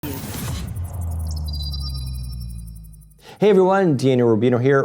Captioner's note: heavy electronic sound